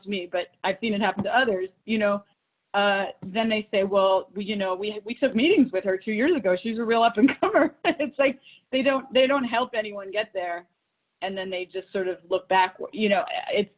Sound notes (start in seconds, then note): 7.2 laughs